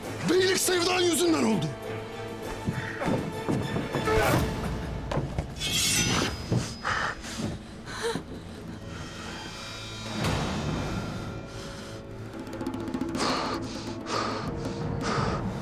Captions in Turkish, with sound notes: Beylik sevdan yüzünden oldu! Ah. (Kılıç sesi) (Nefes sesi) (Nefes sesi)